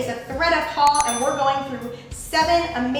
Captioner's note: bell dings